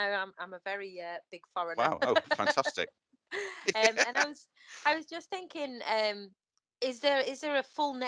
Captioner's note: laughs